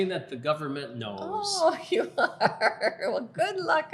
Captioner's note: laughing